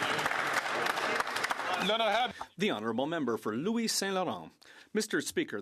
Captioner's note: some Applause